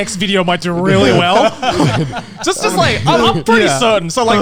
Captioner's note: all laughing